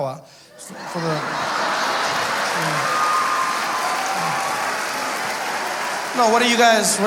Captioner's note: audience laughing